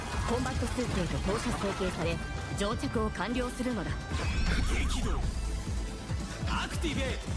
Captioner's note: non-english speech